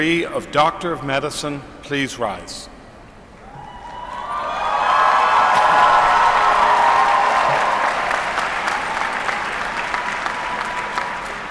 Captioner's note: applause